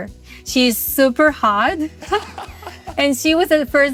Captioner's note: chuckles